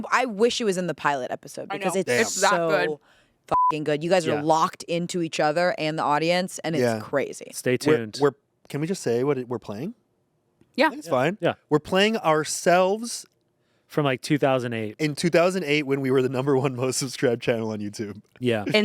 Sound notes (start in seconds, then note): 3.5 beep